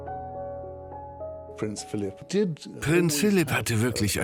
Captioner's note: voiceover